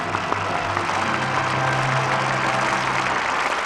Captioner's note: applause